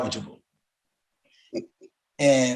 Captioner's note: chuckles